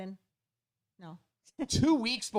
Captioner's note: laughs